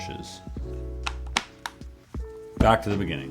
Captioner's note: buttons clicking